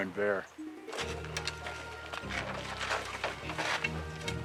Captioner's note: claws scratching; bright music